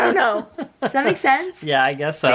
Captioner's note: laughs